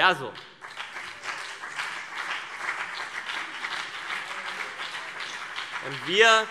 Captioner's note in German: Beifall CDU und BÜNDNIS 90/DIE GRÜNEN